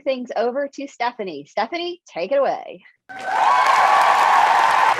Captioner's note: cheers